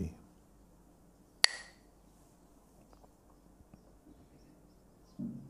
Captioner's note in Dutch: klakt met stokjes